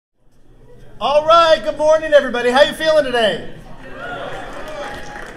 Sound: cheers

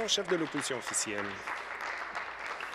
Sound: applause

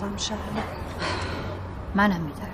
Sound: deep breathing

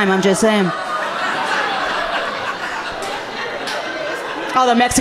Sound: audience laughing amusingly

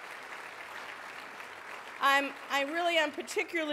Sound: applause

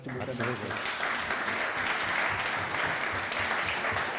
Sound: applause

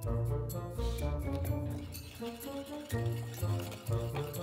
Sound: whisking

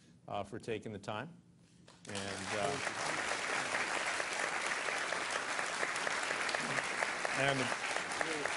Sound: applause

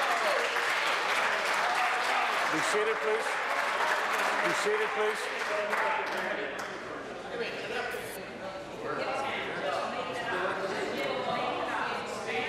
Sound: applause

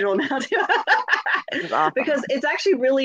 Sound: laughs

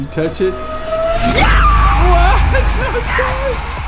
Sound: crowd cheering

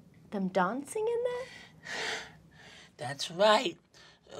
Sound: gasps

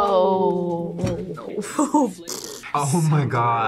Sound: laughs

